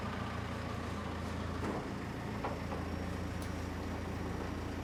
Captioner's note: engine purring